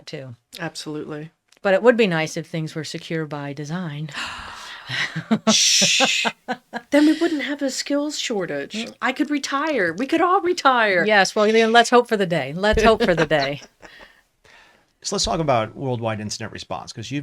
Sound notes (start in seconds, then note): 4.2 laughs; 12.7 laughs